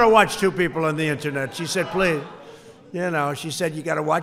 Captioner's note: laughter